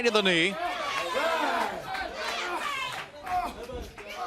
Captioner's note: crowd cheering